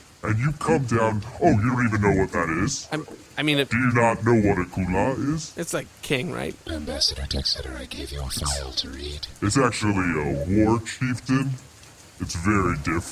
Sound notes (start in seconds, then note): 6.7 quietly